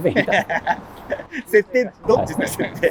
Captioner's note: laughing